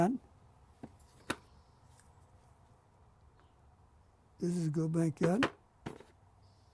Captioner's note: non-english; non-english; pauses for 3 seconds